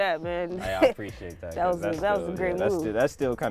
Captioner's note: laughing